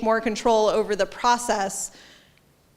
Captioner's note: none